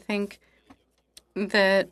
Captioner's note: speaking in French